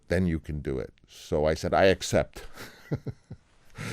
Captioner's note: laughter